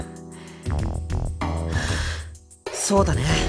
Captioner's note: resigned sigh; resolved sigh